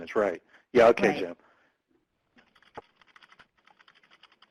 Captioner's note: typing